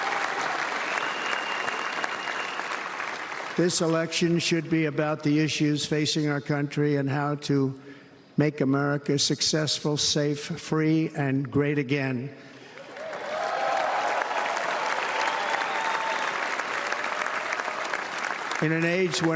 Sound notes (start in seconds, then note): 9.6 applause